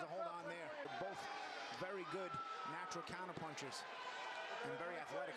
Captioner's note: cheering